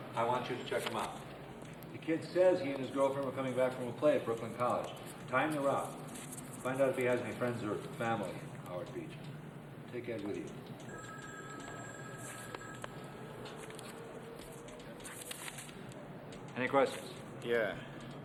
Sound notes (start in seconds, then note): 10.8 phone ringing; 12.7 hand slapping; 12.7 paper rustles